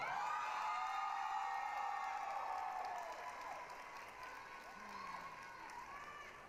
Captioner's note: applause, cheering